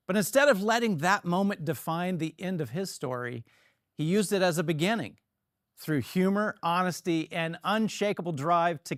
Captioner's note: none